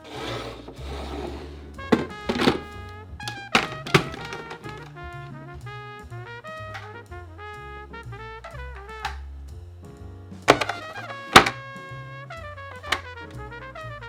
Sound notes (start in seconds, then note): 3.2 snapping